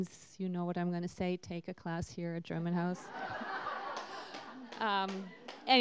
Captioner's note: laughter